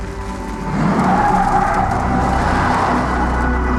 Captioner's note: tires screech